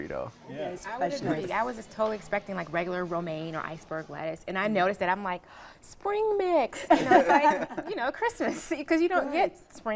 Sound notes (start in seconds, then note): 6.8 laughing